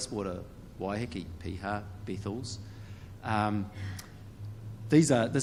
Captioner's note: speaks in foreign language